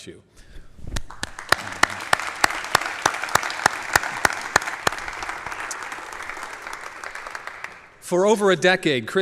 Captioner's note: applause